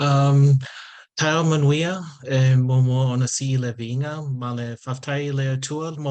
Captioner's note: speaking in Samoan